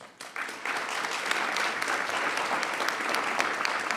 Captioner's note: applause